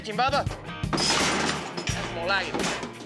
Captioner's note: clanging sound